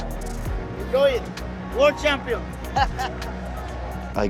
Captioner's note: laughs